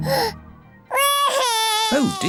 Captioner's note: cries